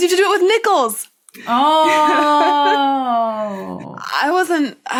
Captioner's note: laughs